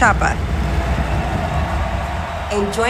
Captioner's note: audience cheering